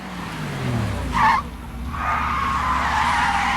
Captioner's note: tires squeal